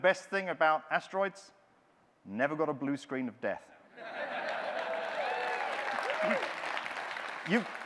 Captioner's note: audience laughing, cheering